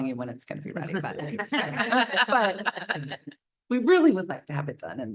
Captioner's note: laughter